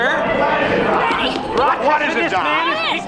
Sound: overlapping chatter

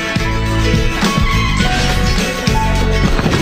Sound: car crashes and the lamppost smashes a window

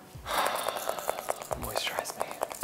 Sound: exhales

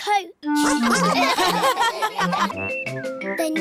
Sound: all laugh

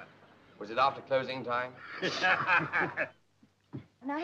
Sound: laughs

